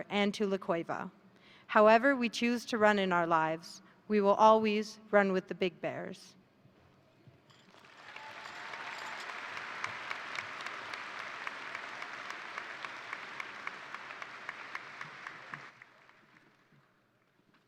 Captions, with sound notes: and La Cueva, however we choose to run in our lives. We will always run with the big bears. (crowd cheering) (crowd applauding)